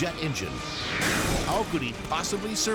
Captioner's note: engine bangs